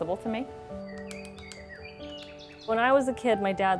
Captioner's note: woodpecker tapping